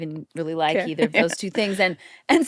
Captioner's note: chuckles